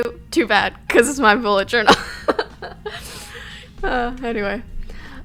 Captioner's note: she laughs